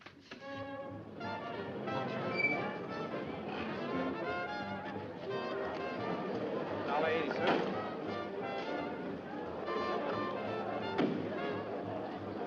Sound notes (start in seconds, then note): 7.7 crowd talking